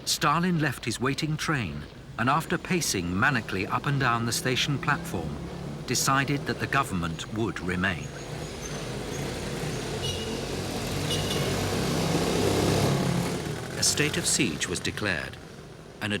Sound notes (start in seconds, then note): 9.6 engines roaring; 9.6 wheels squeaking